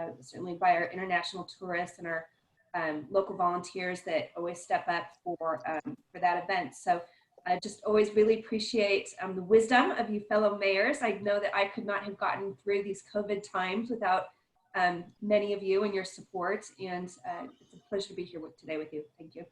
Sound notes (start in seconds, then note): none